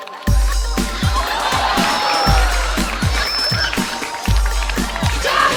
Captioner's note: audience laughing